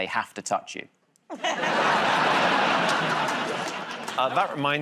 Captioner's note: laughter